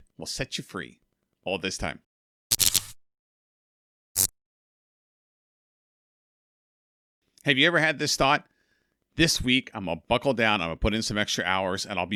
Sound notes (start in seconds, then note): 2.5 electric static